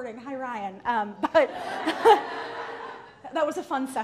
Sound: audience laughs

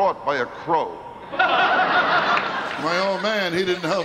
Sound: laughing

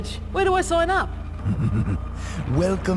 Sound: evil cackle

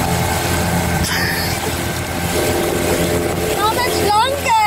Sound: laughs

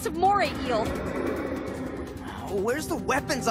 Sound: growling

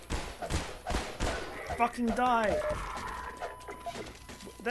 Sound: exasperated

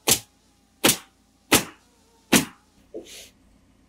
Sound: nail gun bangs

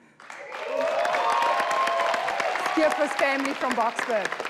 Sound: people applauding

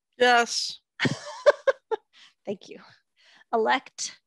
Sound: laughs

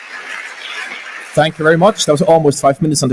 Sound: applause

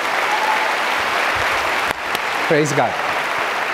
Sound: audience clapping

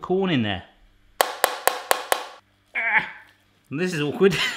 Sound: rolling pin banging

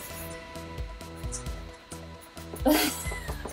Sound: maker scraping; laughing

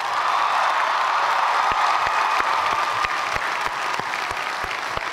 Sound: cheers and applause

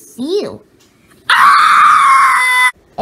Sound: Hi-5 screams

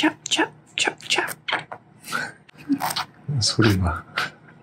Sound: fist eating sound

